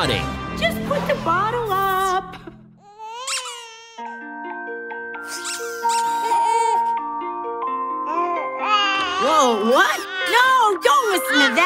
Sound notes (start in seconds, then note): 2.9 crying, squeaking; 6.0 whining; 8.6 babbling